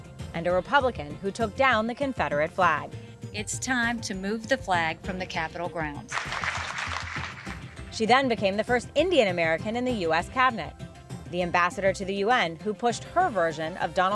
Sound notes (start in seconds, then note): 6.1 applause